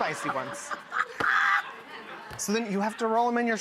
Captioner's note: laughing